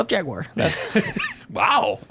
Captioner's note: laughing